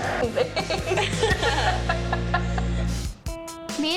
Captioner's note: laughs